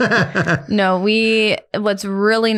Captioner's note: both laughing